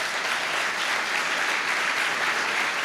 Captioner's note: applause